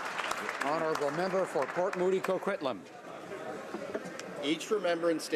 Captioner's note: some Applause